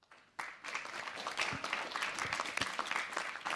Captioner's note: applause